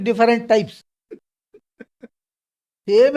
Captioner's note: laughs